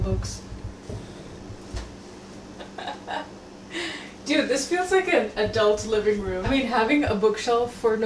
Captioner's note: laughs